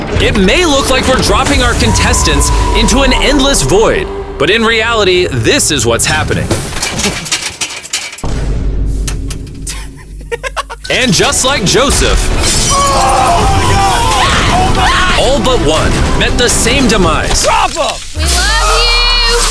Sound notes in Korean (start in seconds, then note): 9.7 웃음; 14.2 비명